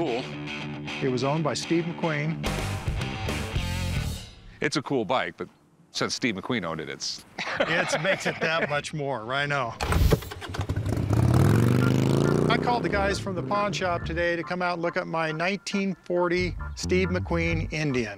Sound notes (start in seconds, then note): 7.4 laughs